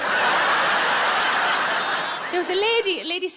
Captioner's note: audience laughs